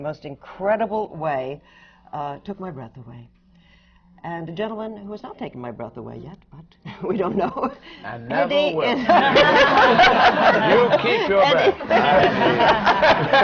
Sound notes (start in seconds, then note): 8.9 laughs; 8.9 laughter